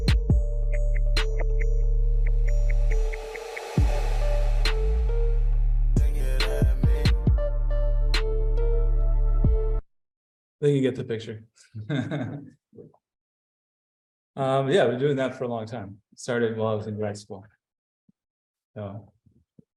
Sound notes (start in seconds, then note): 11.8 laughs